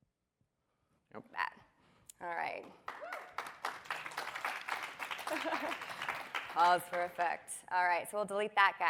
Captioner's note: applause